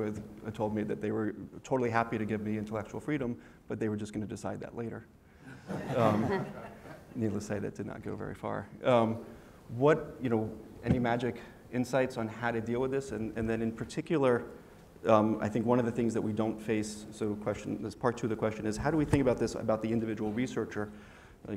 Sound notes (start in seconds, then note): 5.5 laugh